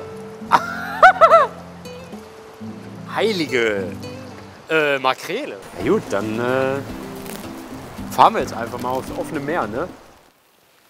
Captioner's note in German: lacht